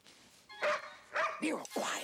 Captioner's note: Nero barking